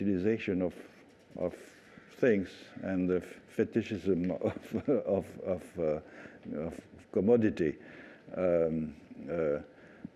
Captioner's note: laughter